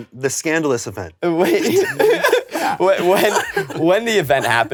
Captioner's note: laughs